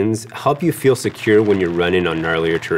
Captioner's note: vines creak